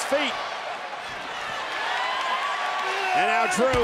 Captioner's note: audience cheering